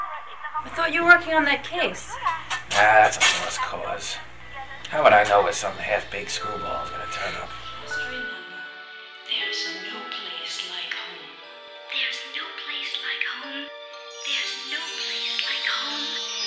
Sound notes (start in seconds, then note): 8.7 television